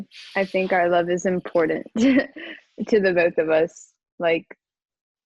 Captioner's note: chuckles